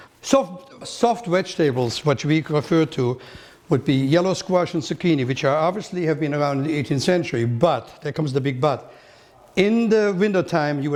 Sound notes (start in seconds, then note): none